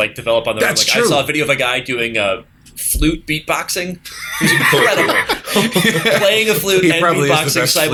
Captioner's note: laughter